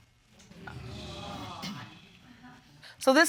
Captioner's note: audience exclaiming